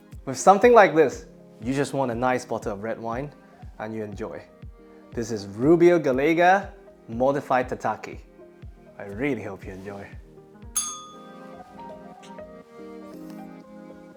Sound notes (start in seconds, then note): 10.7 bell rings